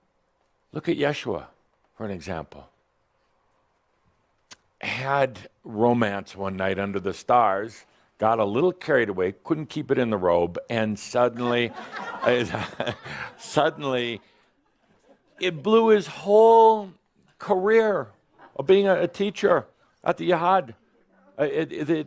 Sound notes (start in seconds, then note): 13.4 some chuckles